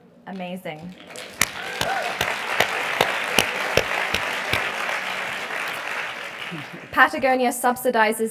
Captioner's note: applause